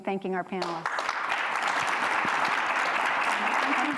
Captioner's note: applause